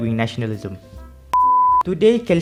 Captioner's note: beep